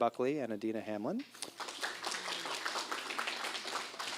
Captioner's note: applause